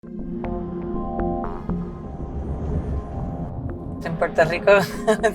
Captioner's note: car noises; ruidos de coches